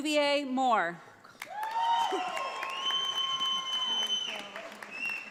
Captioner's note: audience applauds